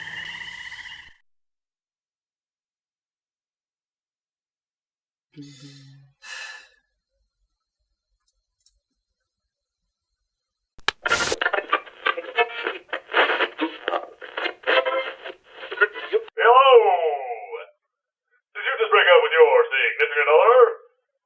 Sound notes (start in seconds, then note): 5.4 Cataliss sighs; 10.8 Different sounds as Cataliss tries to tune into a station; 10.8 radio clicks on